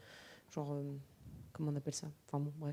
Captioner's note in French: none